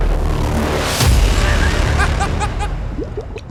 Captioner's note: laughter